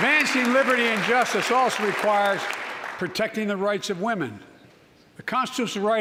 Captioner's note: applause